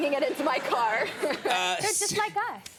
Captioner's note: chuckles